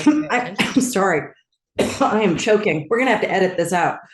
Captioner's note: coughs